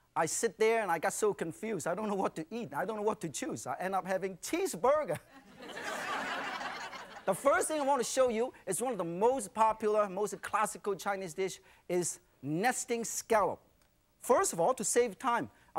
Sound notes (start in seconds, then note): 5.3 audience laughs